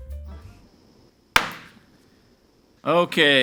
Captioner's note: gavel bangs